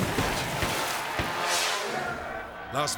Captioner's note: Rex splashing; intense dramatic music; screen exploding; crowd shouting